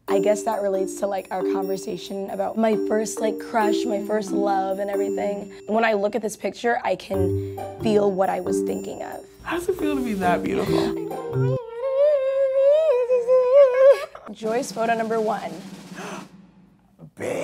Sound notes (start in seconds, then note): 10.5 whimpering; 16.0 gasps